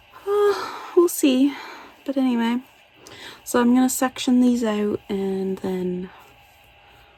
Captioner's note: sighs